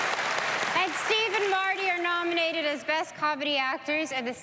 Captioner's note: applause